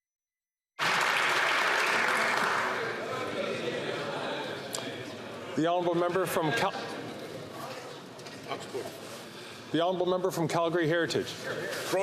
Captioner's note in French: applaudissements